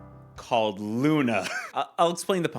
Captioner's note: laughing